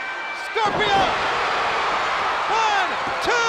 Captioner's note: audience cheering